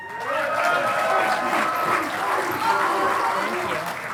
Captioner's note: audience applauding